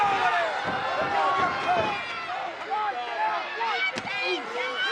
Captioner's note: crowd yelling